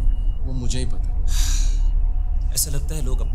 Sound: deep Sigh

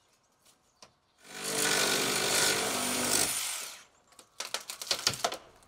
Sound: saw whirring; wood creaking

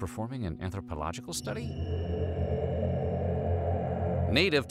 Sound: ominous groaning

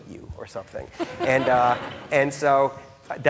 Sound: laughing

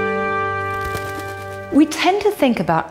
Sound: wings flap

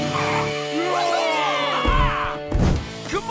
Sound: cheering

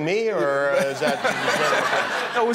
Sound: laughter

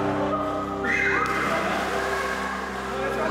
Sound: Emma shrieks, water splashes

